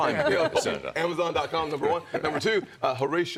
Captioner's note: laughter